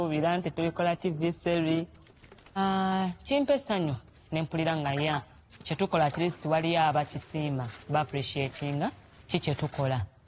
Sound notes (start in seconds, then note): none